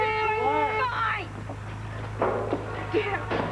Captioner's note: horn sounds